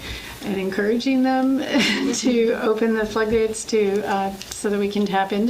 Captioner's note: laughs